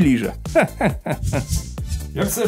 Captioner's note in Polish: śmiech